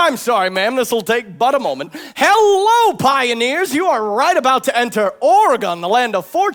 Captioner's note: none